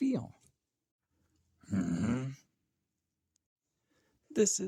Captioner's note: confused monster sound